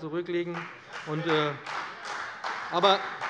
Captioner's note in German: Beifall bei Abgeordneten der CDU